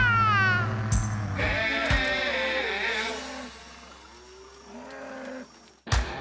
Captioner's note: mooing